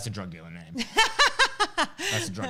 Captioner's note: laughs